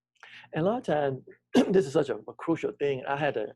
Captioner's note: clears throat